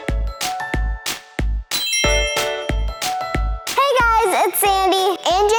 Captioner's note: tinkling chimes